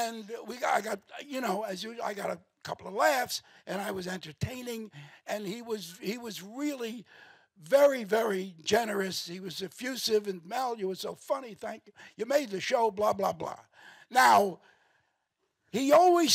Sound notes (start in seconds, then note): none